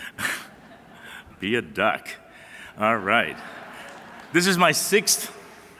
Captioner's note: applause